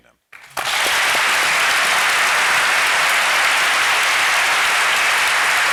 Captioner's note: applause